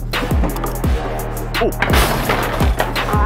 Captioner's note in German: Krach